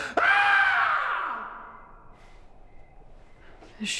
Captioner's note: screaming